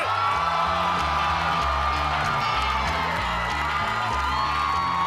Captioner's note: audience cheering